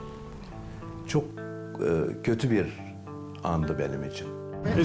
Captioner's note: continues speaking in foreign language